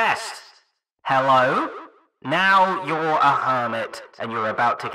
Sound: microphone voice

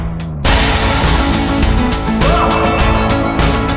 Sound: chrous of "heys" join with a drum crash

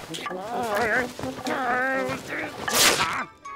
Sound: groaning

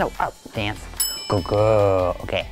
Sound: bell dings

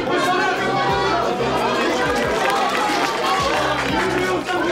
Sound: students applaud

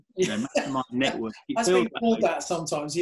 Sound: laughing

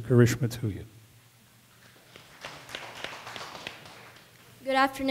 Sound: audience applause

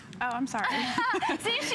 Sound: laughter

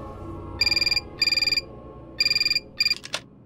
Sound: phone rings

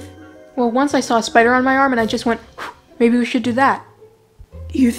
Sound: blowing sounds

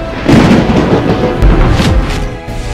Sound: suspenseful music playing; thunder rumbles; dramatic music playing

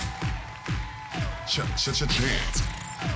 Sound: crowd clapping; stammers

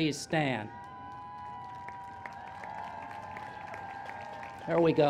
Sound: applause and Cheers

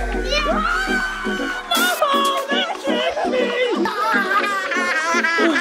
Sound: shouts

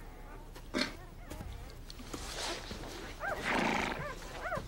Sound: horse snorts

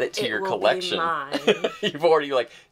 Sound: laughing

